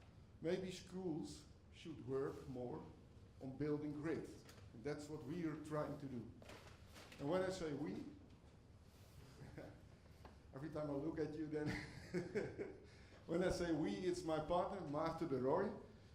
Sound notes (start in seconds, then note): 8.7 laughs